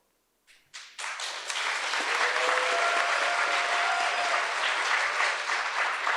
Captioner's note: audience applauds and cheers